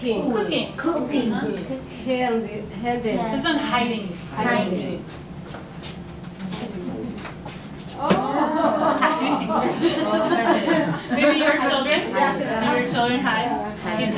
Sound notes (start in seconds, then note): 8.1 laughs